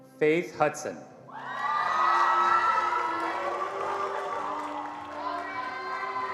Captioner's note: attendees cheering and applauding